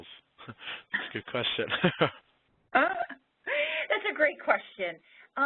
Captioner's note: laughs